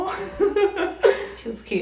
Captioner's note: laughing